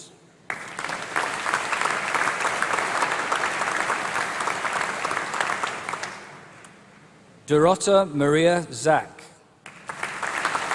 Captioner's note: applause